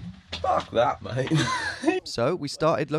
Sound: laughing

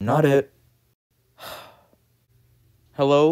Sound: sigh

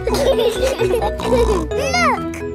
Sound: laughing

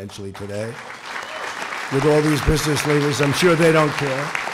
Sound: applause

